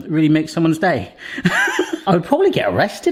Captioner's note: laughing